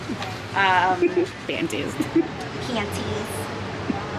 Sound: giggles

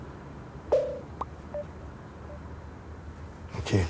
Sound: cell phone popping-bling sounds

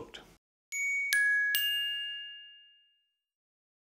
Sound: dinging

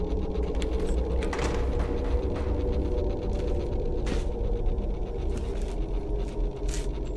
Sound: door opening; footsteps approaching

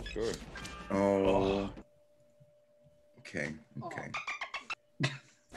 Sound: laugh

